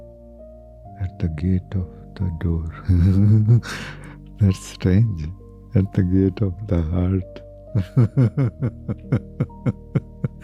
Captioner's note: laughs